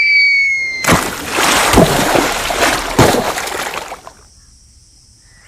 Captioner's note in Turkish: Su damla sesi